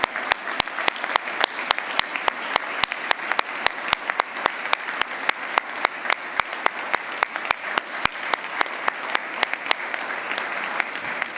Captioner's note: applause